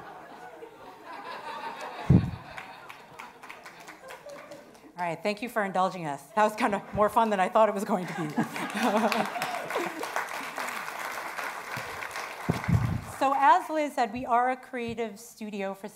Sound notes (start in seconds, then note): 8.0 attendees applauding